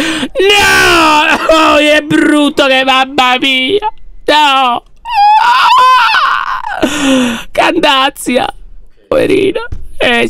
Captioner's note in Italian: urlando; urlo stridulo